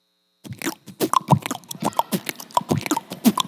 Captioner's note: beatboxing